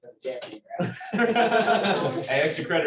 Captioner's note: laughter